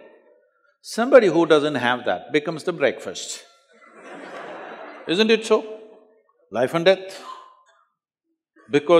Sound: laughter

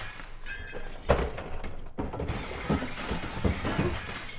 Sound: fighting and shattering noises

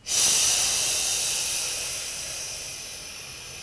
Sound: exhale

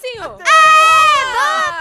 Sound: cheering

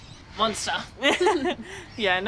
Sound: both laughing

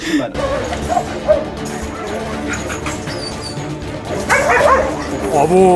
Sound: barking sounds and music

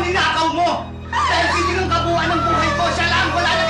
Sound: screaming

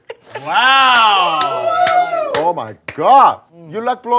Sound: everyone cheering

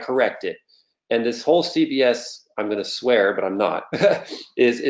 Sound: laughs

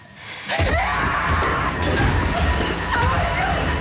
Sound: screams

